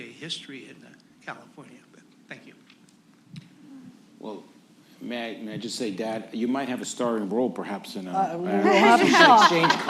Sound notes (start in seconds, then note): 8.7 laughter